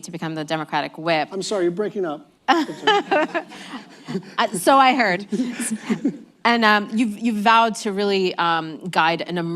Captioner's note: laughter